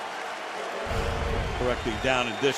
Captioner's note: cheering